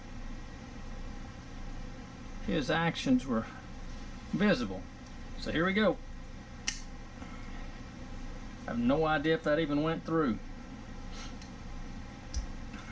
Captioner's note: click